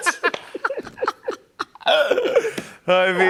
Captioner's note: laughter